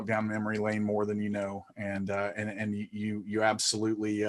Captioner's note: stuttering